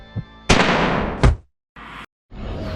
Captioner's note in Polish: wystrzał